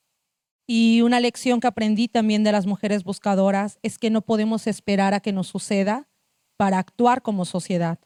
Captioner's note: speaking Zapotec language